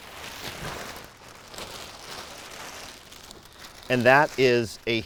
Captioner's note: plastic crinkling